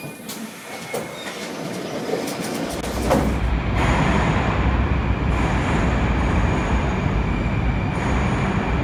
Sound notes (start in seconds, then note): 0.0 opening doors; 3.5 arrival of train at the station